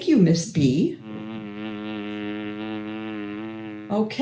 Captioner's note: buzzing noise